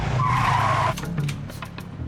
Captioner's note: tires screeching